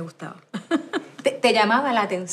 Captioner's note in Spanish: Se ríe